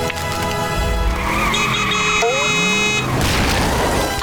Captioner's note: horn blaring